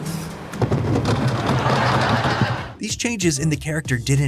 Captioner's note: thudding